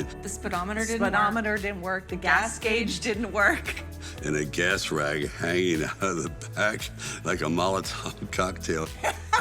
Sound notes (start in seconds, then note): 2.3 in Unison